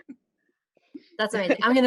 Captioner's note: laughter